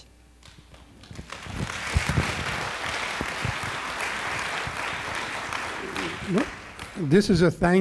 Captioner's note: applause